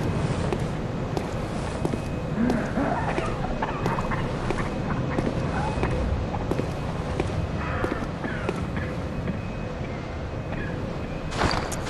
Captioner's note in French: Bruits d'une toux